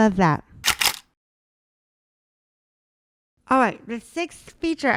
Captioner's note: camera shuttering